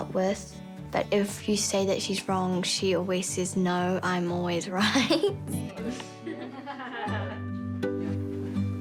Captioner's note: chuckles